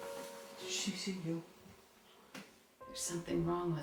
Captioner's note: none